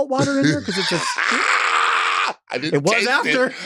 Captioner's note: Latrice laughing